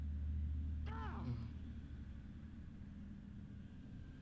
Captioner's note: yells